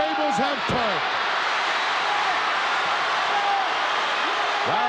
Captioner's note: crowd cheering